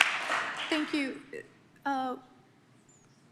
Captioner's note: applause